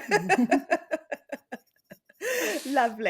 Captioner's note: chuckles